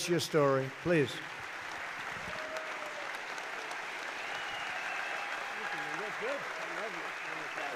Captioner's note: applause